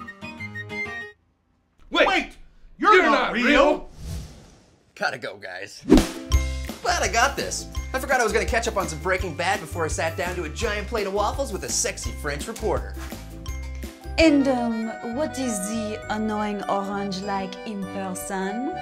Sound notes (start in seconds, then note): 13.0 French accent